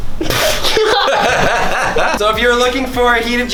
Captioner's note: laughter